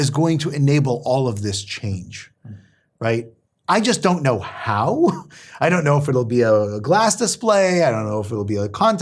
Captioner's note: laugh